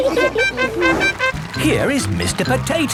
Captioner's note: all laughing; horn tooting